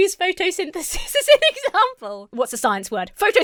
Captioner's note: laughs